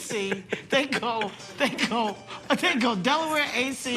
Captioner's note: laughing